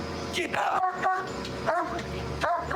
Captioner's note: barking